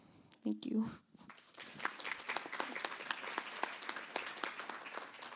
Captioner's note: applause